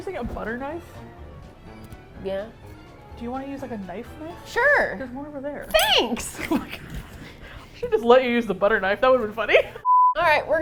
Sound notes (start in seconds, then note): 4.3 happily; 6.2 laughs; 9.2 laughs